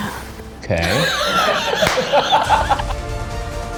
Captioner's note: intense music; laughs; intense music